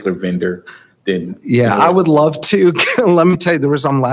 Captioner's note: chuckles